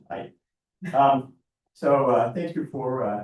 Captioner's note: board member chuckling